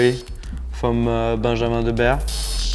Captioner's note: speaking in foreign language